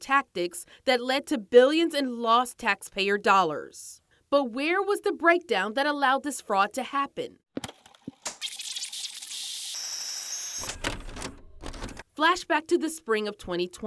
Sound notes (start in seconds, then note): 7.5 tape player clicks; 8.2 tape rewinding